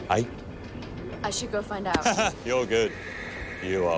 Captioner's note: laughs